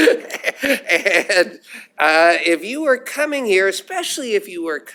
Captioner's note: laughter